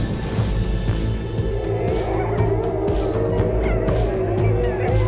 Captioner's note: wolfs howling